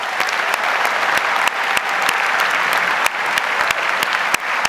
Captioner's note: audience applauds